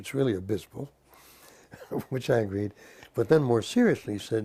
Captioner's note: laugh